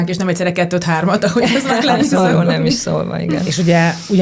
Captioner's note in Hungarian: nevetés